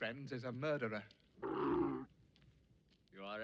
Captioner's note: camel groaning